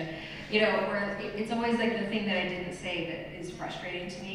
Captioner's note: none